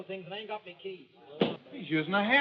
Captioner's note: hammer strikes